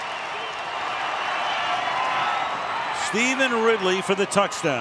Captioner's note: crowd cheering